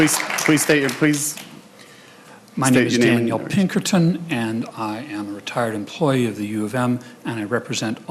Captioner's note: applause